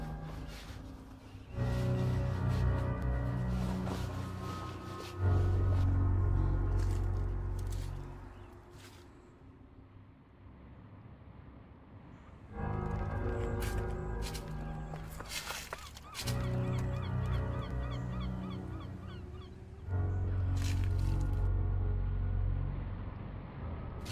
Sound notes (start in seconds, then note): 0.3 ominous music continues; 14.1 grass crunching; 17.1 gulls squawking; 20.5 grass crunching